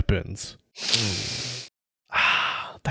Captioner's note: sniffffff